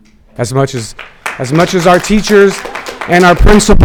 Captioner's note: audience clapping